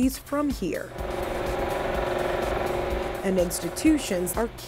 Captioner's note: equipment buzzing